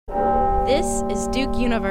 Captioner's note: bell ringing